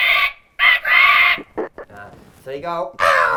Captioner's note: imitates birds screeching